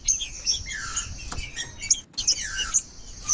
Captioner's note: trinca ferro cantando